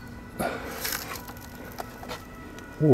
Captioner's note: groans